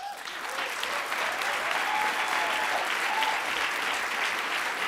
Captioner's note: audience applauds